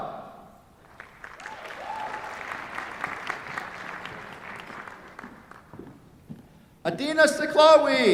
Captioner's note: applause